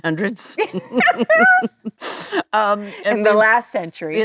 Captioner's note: Lisa laughing